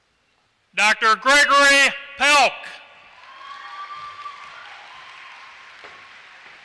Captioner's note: applause